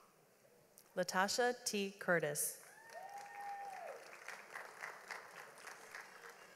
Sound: audience applauds

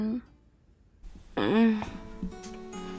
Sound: moans

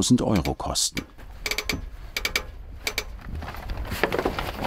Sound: metal creaking

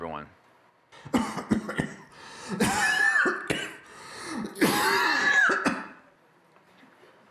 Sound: coughing

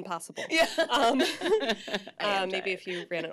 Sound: laughs

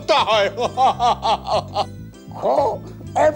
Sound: laughs

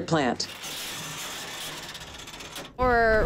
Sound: whir of line dropping

